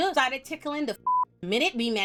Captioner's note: beep